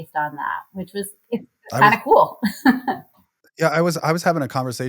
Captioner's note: laughs